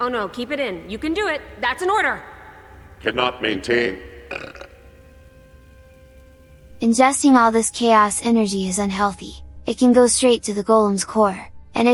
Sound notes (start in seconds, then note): 4.5 belch